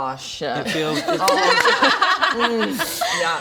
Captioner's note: laughs